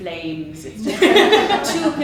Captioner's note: audience laughs